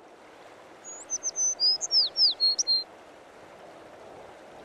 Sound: sound of song birds

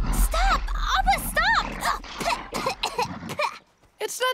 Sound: spitting

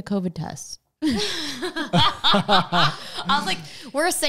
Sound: laughing together

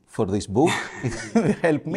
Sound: laughter

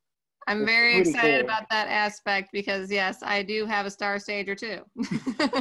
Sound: laughs

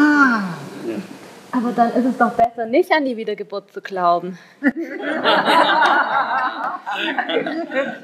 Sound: laughing

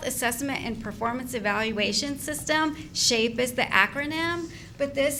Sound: none

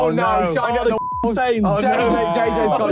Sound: group exclaiming

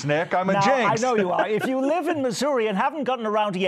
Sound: laughter

